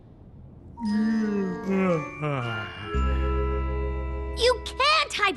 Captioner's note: yawn